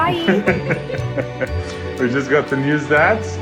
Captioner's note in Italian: risate